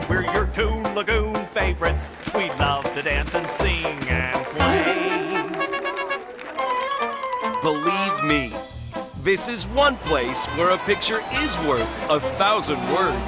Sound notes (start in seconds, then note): 5.1 audience applauding; 13.1 upbeat music